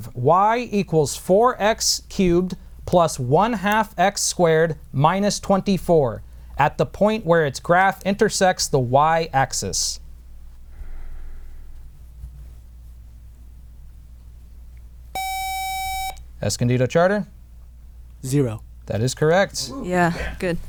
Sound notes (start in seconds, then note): 15.1 buzzer